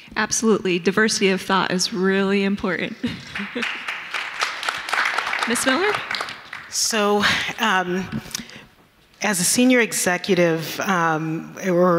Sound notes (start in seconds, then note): 3.2 audience clapping